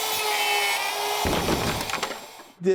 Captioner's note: wood clatters